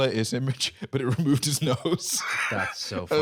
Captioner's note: laughs